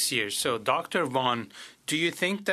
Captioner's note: speaking French